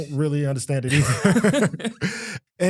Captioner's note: laughter